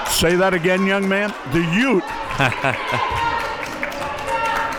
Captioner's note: laughs